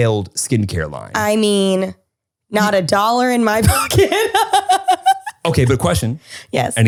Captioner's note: laughs